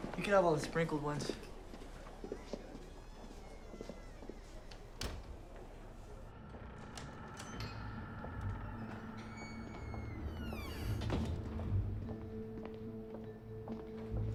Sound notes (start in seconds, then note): 2.8 door squeaks and thuds; 7.2 door latch clicks; 9.7 hinges squeaking; 11.5 shoes clacking